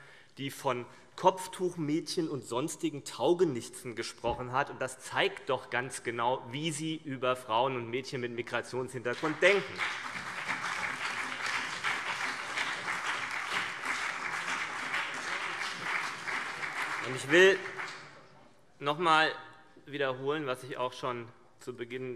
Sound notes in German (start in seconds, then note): 9.0 Beifall CDU, BÜNDNIS 90/DIE GRÜNEN, SPD und DIE LINKE